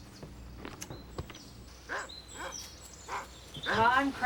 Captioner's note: dog barks